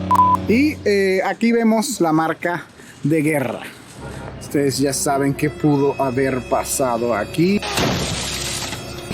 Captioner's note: engine explodes